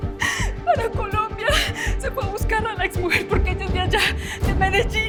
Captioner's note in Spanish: Sollozos